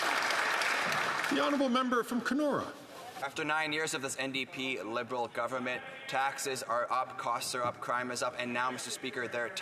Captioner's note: some Applause